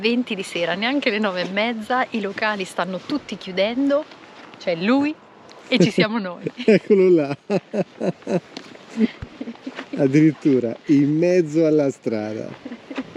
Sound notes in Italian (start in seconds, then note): 6.4 Risate